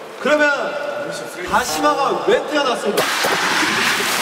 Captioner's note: rubbing